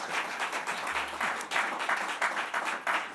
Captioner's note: applause